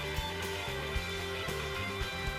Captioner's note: cheers and applause